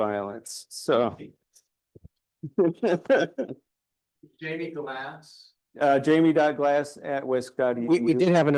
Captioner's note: laughs